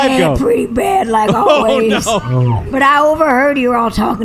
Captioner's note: laughing